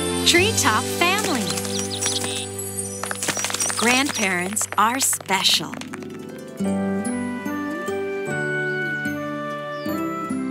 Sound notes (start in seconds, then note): 0.0 lighthearted music; 1.5 birds chirping; 3.0 animals clapping; 6.9 lighthearted music